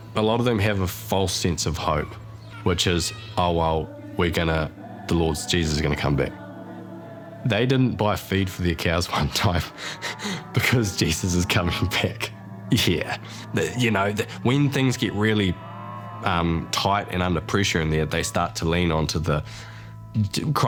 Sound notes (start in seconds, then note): 9.4 chuckles